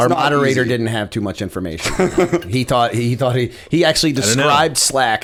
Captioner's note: chuckle